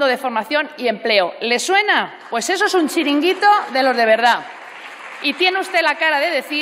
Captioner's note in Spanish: Aplausos